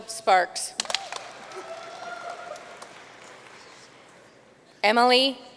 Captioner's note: audience cheering and applauding